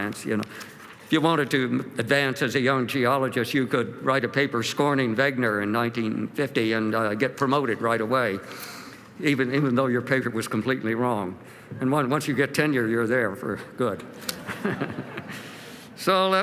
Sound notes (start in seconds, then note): 14.2 laughs; 14.2 laughter